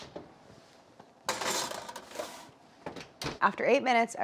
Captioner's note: baking sheet clanging